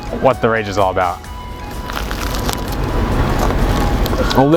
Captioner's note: satisfying crunch